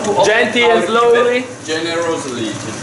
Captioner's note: confused mumbling